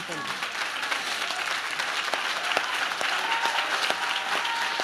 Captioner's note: audience claps